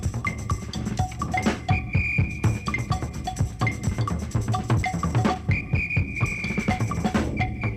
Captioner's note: whistle blowing